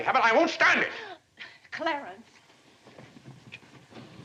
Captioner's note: gasps